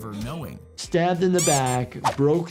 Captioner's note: graphic squeaking